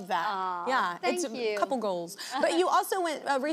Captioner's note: laughs